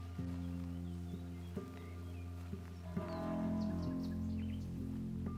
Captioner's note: grass crunching underfoot